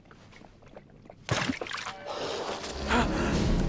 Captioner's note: blood splashing; Homer gasping